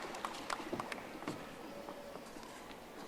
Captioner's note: audience applauding